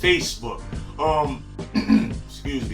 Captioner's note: clears throat